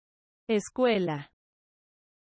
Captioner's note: Spanish